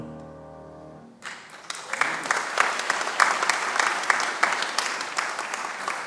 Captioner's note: congregation applauds